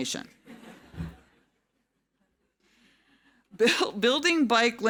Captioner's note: audience laughing